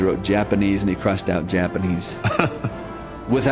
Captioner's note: laughs